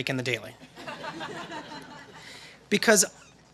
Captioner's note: laughter